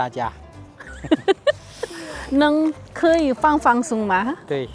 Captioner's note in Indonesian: tertawa